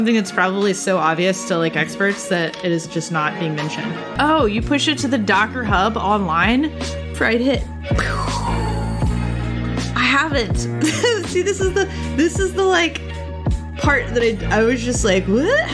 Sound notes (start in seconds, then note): 8.6 pew; 10.8 laughs